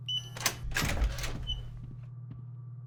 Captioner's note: door unlocks